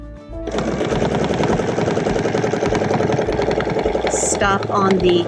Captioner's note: machine whirring